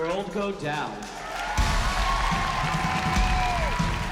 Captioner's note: cheering